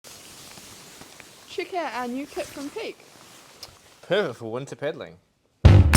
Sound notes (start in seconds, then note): 0.0 jackets rustling